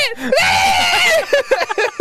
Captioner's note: incomprehensible screaming